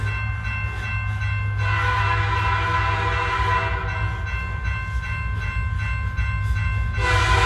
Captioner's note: bell dinging; train whistle blaring